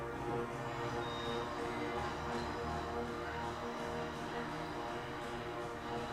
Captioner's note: static hissing; tones beeping